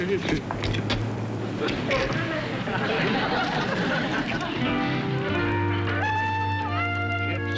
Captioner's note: humming